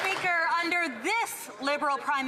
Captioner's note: some Applause